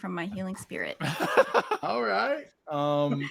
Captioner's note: laughs